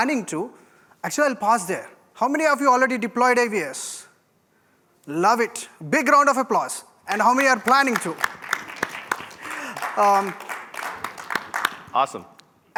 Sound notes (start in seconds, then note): 7.1 applause